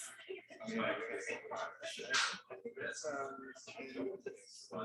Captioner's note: people chattering indistinctly